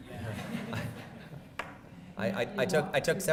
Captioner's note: laughs